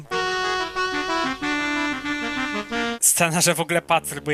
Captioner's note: weird voltage